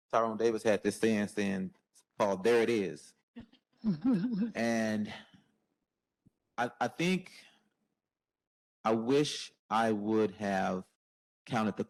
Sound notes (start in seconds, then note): 4.6 all laugh